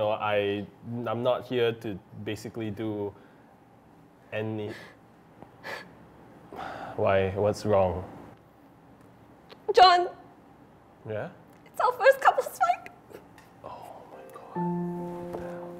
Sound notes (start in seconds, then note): 6.5 breathes out; 13.0 sob; 13.8 whispers